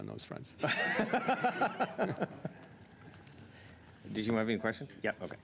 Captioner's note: laughter